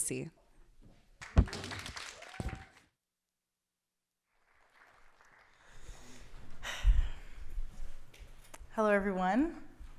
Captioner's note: clapping